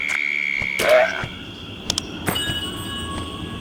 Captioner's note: ribbits